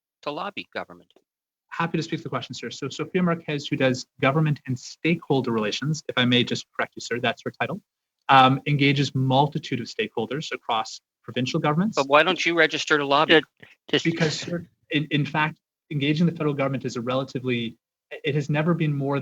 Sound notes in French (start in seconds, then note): 7.8 voix de l'interprète